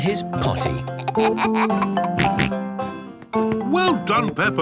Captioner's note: giggles, snorts